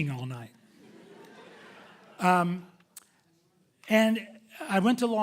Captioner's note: audience chuckling